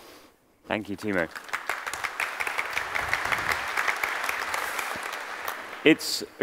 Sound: applause

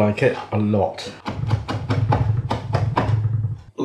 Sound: chop chop chop

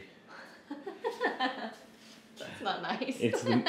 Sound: laughing

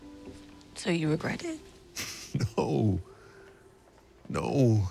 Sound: chuckles

